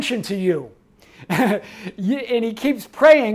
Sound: chuckles

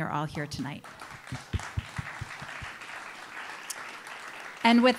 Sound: audience applauding

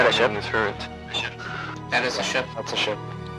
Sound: on the radio; on the radio

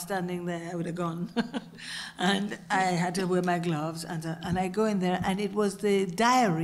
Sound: laugh

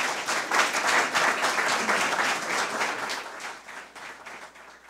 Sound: audience applause

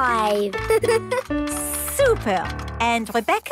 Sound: giggles

